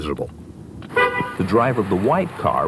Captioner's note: car honks